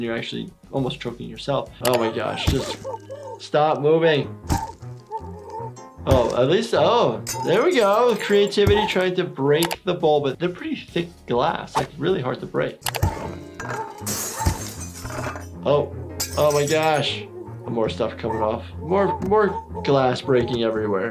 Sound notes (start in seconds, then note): 1.8 keyboard clicking; 4.5 head banging; 13.5 glass breaking